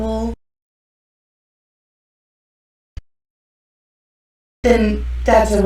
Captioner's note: silence